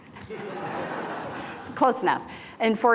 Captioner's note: attendees laughing